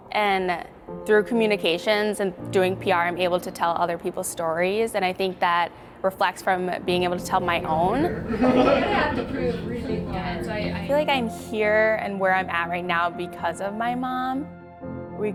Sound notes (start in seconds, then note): 8.0 everyone laughing; 9.9 group chatter